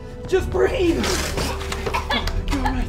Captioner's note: Christine gagging